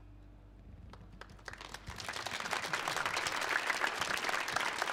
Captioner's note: audience applauds